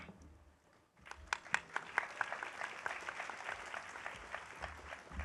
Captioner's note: audience applauding